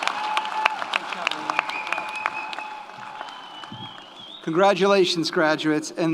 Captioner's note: audience applauds; audience cheers